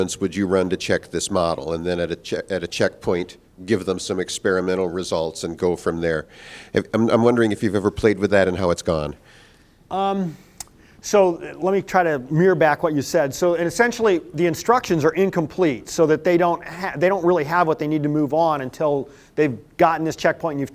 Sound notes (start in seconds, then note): none